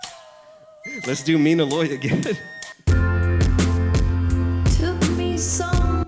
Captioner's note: chuckles